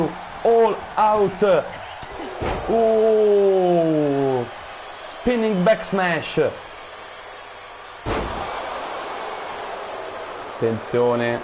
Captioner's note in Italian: Applauso